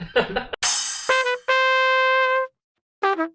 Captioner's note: laughter